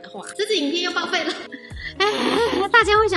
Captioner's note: sigh